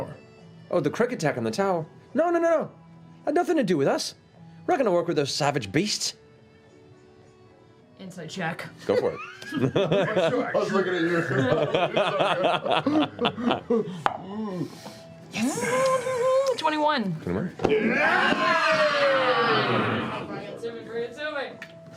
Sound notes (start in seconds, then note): 17.7 cheering